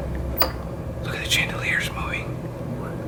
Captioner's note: whispering